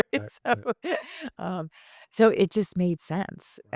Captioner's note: laughs